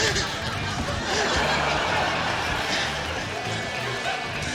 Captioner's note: laughter